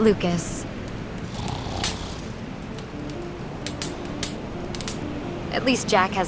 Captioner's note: Jack snoring